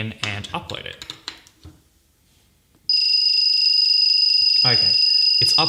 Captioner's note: bell ringing